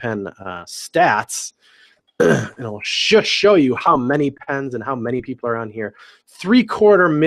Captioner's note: cough